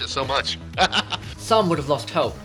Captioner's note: laughing